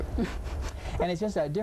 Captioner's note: laughing